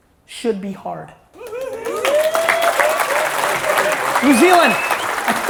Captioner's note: audience cheers